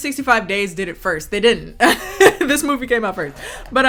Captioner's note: chuckling